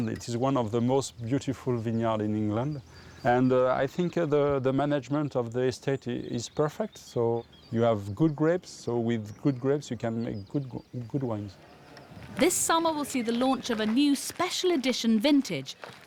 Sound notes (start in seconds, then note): none